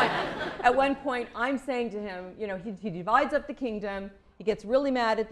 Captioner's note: laughter